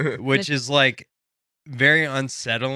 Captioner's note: laughing